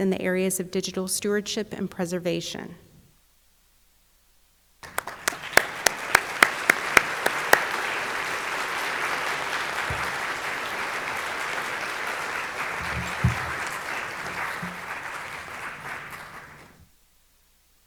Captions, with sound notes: in the areas of digital stewardship and preservation. (audience applauding)